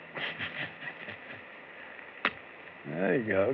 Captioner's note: chuckles